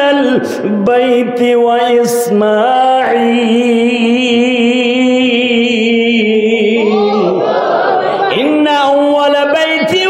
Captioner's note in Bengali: সশব্দ হাসি